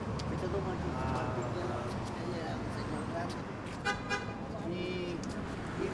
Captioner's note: street noise